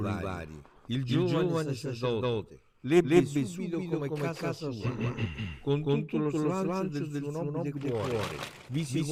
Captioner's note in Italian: schiarire la voce